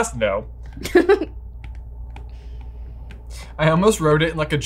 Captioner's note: chuckles